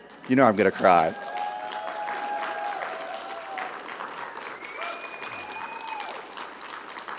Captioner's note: audience applauding; audience cheering